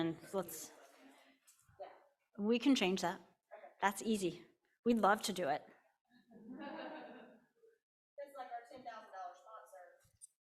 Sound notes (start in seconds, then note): 6.4 laughing